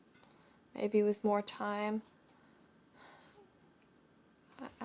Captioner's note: sighs